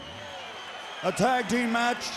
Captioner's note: audience cheers